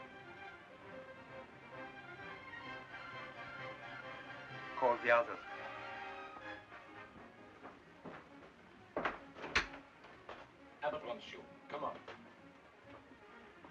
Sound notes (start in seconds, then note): 9.3 door opens; 13.1 ominous music